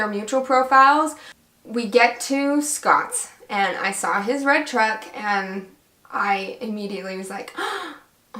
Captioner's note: gasp